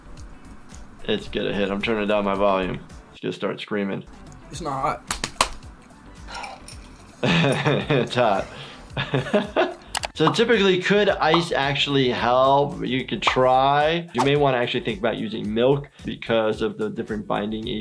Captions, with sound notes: It's gonna hit him. I'm turning down my volume. He's gonna start screaming. - It's not hot. (slapping) (laughing) - It's hot. (laughing) So typically, could ice actually help? You could try. You may wanna actually think about using milk because of the different binding agents.